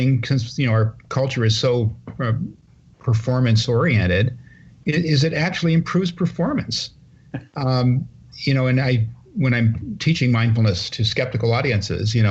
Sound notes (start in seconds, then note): 7.2 laughter